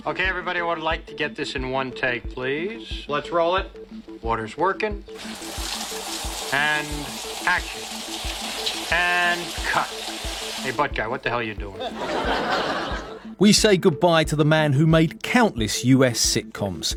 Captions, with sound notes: Okay, everybody, I would like to get this in one take, please. Let's roll it. Water's working. [water running] And action. And cut. Hey, butt guy, what the hell are you doing? [laughing] We say goodbye to the man who made countless US sitcoms,